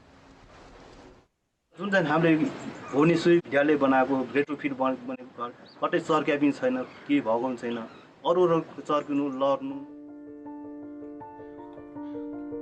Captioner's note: non-english speech